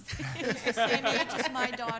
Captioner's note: laughing